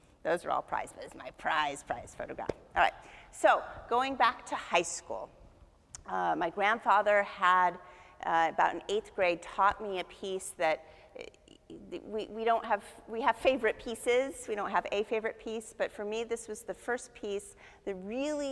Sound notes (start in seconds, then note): none